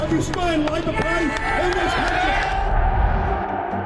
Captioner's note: cheering